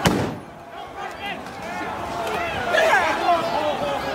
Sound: crowd yelling

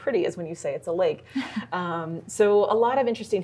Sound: chuckles

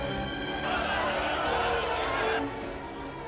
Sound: all clamoring

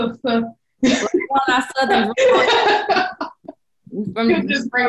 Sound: belly laughing

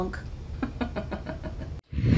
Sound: laughing

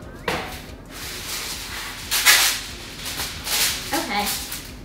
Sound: wax paper ripping

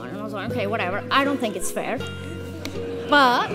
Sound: audience laughs

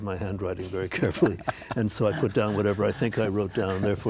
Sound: both laughing

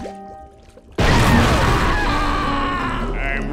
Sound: screaming

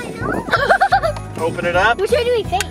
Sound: laughing

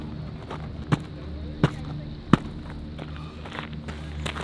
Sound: stomping

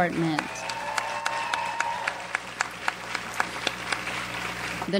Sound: audience applauds

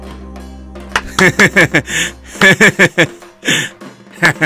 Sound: clapping

